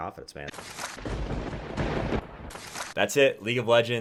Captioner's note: thunder cracks